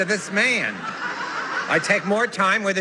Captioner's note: laughter